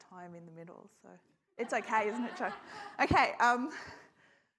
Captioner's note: audience laughs